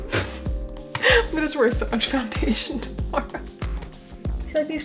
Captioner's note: laughing